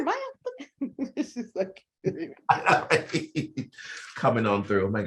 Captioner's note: both chuckling